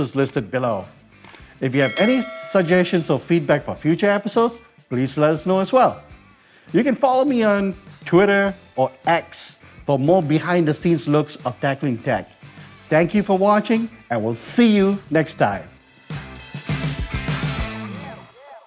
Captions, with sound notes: [mouse clicking] [bell dinging] If you have any suggestions or feedback for future episodes, please let us know, as well. You can follow me on Twitter, or X, for more behind-the-scenes looks of "Tackling Tech." Thank you for watching, and we'll see you next time. [Show theme music]